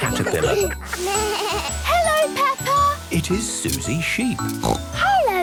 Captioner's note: bleating; snorting